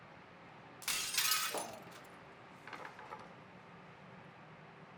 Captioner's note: glass shatters